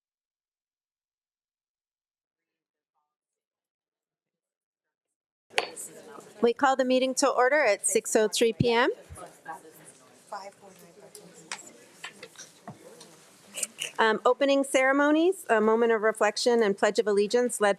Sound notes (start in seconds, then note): 2.7 trustee speaking faintly